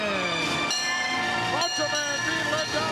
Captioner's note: bell rings